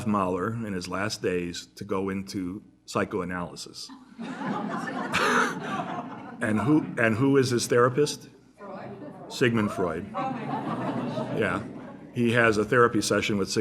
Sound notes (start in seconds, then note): 10.0 laughter